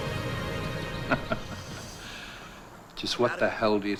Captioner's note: man laughs